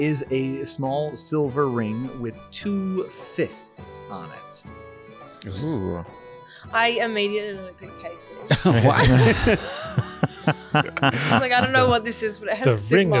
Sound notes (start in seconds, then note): 8.5 laughing